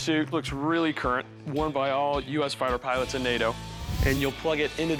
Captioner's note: none